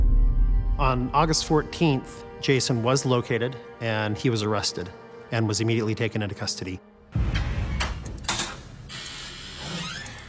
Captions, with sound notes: On August 14th, Jason was located and he was arrested and was immediately taken into custody. [timer ticking]